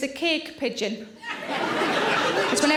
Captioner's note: audience laughing